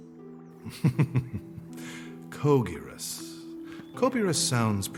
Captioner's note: chuckles